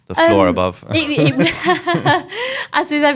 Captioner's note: laughs